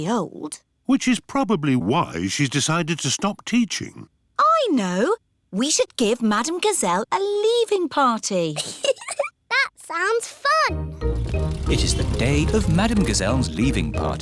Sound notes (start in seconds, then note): 8.5 giggles